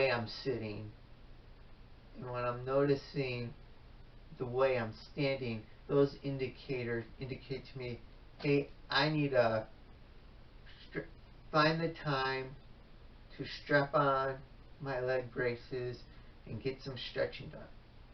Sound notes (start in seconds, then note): none